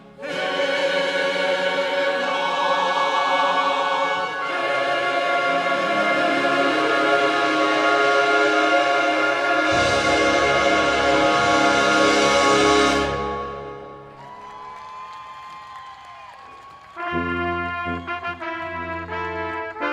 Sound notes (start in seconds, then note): 14.1 applause; 17.0 processional music playing